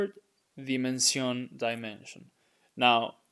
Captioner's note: speaking in Spanish